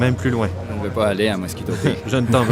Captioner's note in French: rire